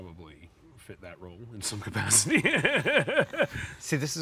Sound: laughs

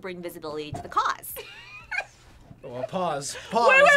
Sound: laughs

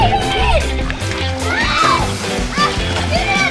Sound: grrr, grrr!; splash; fun music

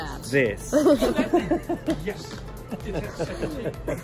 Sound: both laughing

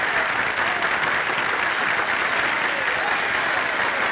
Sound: all cheering

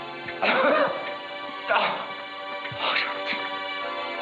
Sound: coughing

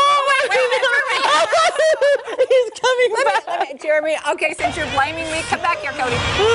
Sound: laughter

